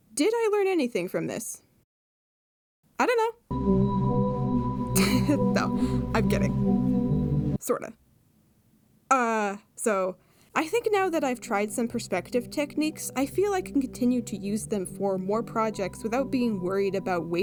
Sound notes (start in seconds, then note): 5.0 laughs